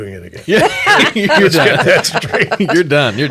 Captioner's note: all laugh